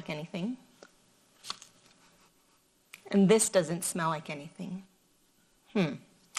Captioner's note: sniffs